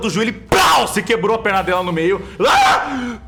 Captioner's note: pow; yells of pain